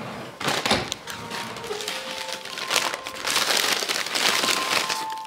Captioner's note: ruffling of paper sack